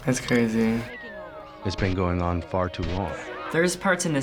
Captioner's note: voice-over